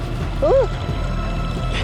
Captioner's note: yelps